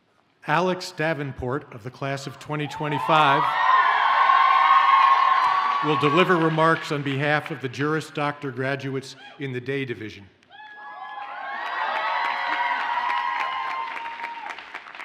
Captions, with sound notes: - Alex Davenport of the class of 2025 (audience cheers) will deliver remarks on behalf of the Juris Doctor graduates in the day division. (audience cheers and applauds)